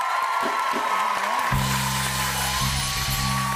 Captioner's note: cheers and applause